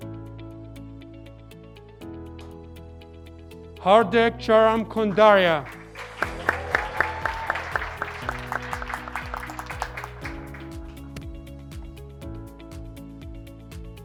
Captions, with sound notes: - Hardek Chram Khundaya. (graduates clapping) (graduates cheering)